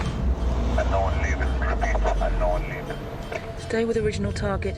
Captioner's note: man over radio